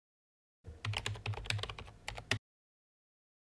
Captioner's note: typing